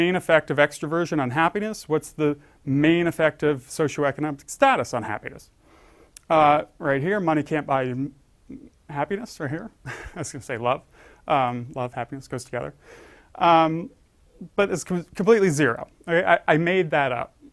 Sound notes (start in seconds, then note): 9.9 laugh